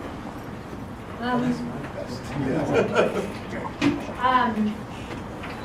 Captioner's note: laugh